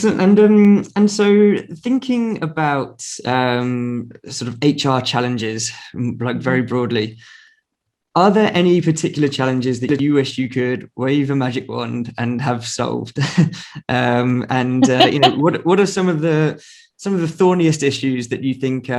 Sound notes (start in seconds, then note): 12.4 laughing